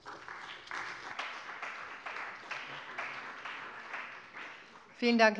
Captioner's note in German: Beifall bei der CDU und dem BÜNDNIS 90/DIE GRÜNEN